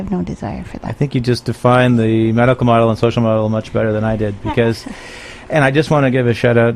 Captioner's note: haha